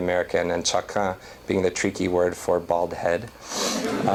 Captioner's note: non-english; laughter